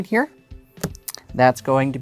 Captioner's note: card slaps